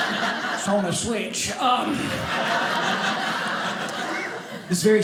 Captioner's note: audience laughing